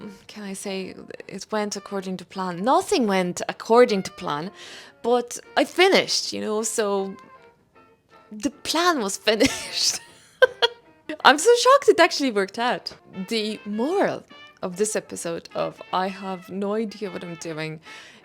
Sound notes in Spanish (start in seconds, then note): 9.4 risas